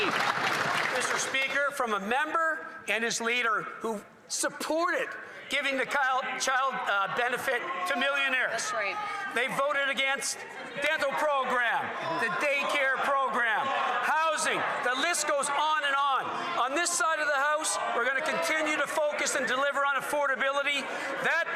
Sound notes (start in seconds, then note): 1.7 some Applause